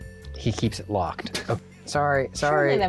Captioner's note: laughs